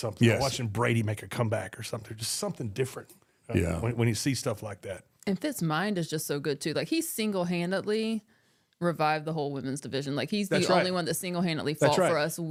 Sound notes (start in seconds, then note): none